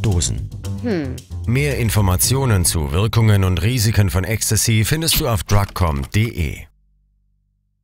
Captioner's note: in german